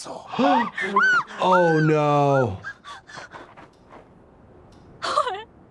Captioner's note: Thanos speaking in Korean; player screaming; player screams; gasps; player speaks in Korean